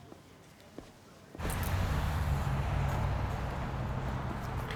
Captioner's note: cars whooshing